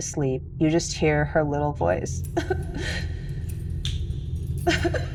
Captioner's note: wimpers